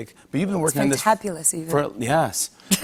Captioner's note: laughs